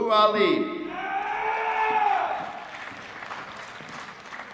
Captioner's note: applause